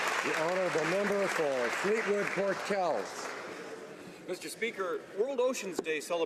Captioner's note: some Applause